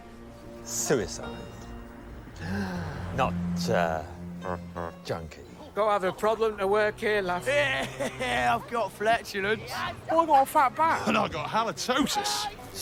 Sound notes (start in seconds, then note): 2.3 gasps; 7.6 laughs